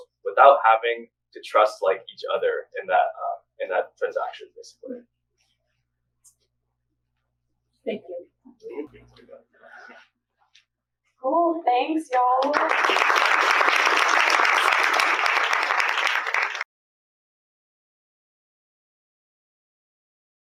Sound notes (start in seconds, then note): 12.1 applause